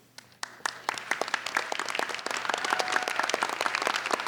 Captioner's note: applauding